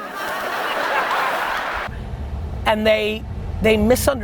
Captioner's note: audience laughter